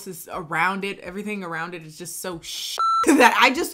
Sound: beep

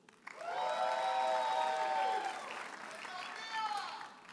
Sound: audience cheers and applauds

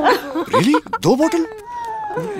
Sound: laughing

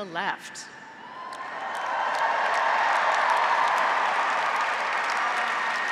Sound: graduates and audience cheering; graduates and audience applauding

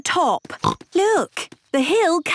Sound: snorts

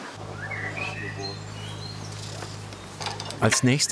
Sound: birds chirping

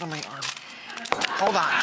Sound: audience laughter

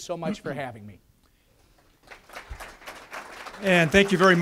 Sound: audience applause

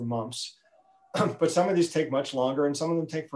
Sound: clears throat

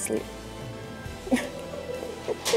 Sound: laughter

